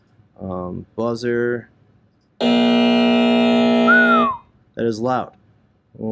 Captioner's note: Algo buzzing